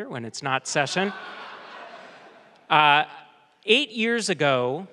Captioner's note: audience laughs